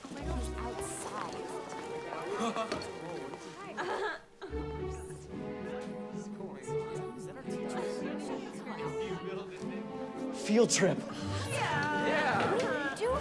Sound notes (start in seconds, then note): 2.1 curious music; 2.1 students chattering